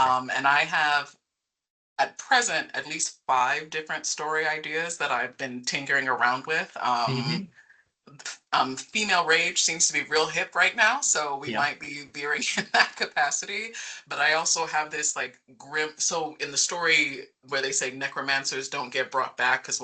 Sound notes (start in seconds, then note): 11.4 chuckling